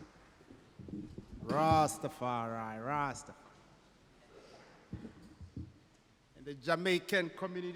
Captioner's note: non-english speech